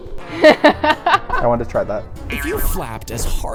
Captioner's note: laughing